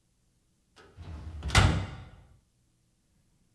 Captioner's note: dryer clicking closed